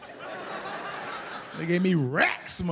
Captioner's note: audience laughs